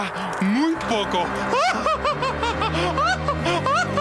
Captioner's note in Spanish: evil laughter